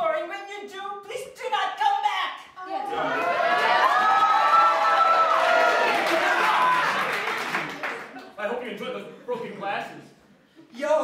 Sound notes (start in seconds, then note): 3.5 applause